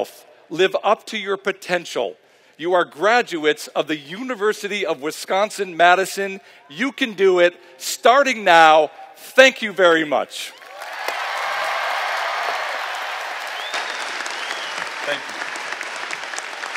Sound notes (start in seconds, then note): 10.4 cheering and Applause; 15.9 applause